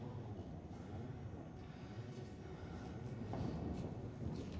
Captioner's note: none